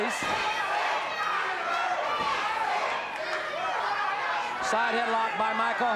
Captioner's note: audience chanting